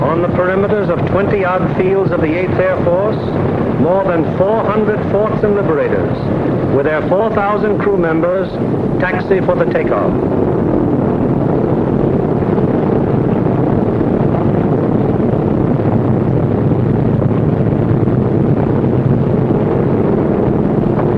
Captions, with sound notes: On the perimeters of 20 odd fields of the Eighth Air Force, more than 400 Forts and Liberators with their 4,000 crew members taxi for the takeoff. (plane engines roaring)